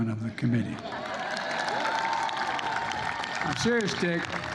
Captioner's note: applause